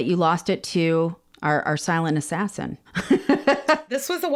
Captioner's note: laughs